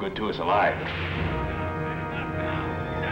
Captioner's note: whip cracks